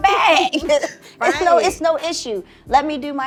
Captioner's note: laughing